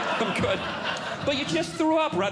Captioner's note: audience Laughing